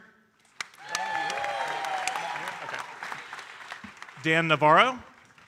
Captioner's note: audience cheering and applauding